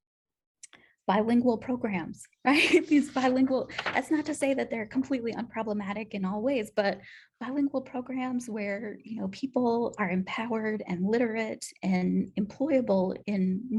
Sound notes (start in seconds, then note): 2.5 laughter